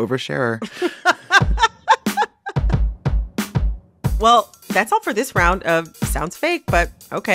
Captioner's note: laughter